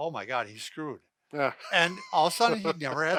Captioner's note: laughs